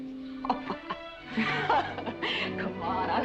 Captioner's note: Mrs. Warren laughs